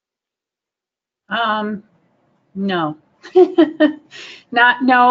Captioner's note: laughing